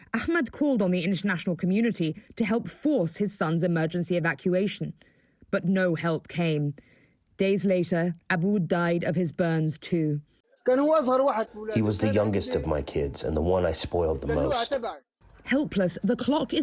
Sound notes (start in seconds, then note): 12.0 through translator